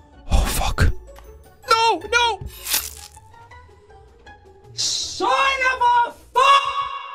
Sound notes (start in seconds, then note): 2.4 spike stabbing sounds